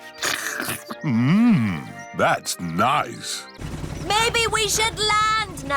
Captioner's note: slurps